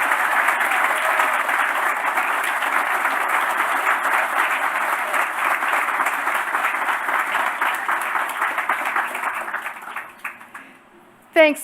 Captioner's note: applause